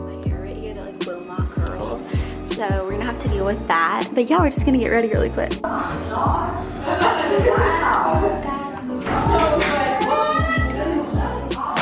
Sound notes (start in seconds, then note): 5.6 people chattering